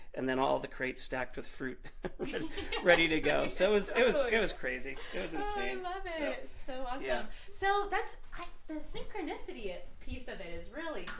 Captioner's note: laughter